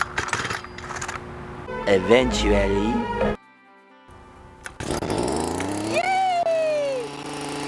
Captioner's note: Rototiller running